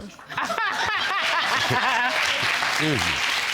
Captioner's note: audience laughing and applauding